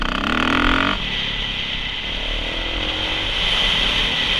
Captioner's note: engine humming